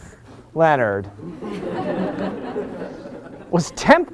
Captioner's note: laughter